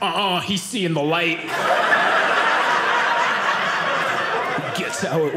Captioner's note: audience laughing